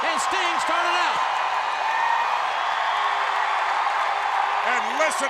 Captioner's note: audience applauds and cheers